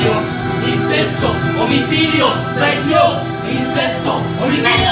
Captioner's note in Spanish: Cánticos ganan en intensidad